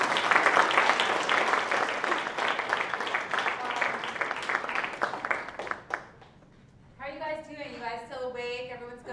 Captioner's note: applause